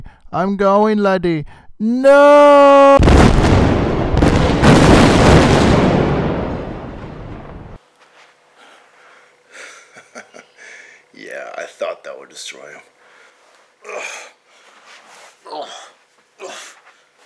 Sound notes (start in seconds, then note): 3.0 explosion; 9.6 chuckles